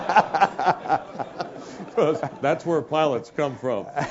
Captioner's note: laugh